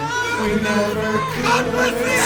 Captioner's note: chaos, muffled by crowd